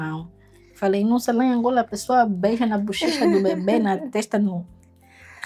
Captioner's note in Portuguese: risadas